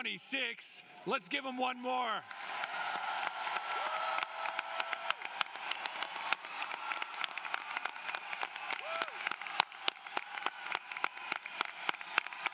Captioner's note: applause